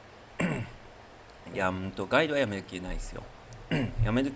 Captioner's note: cough; clears throat